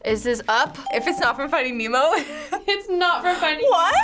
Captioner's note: laughs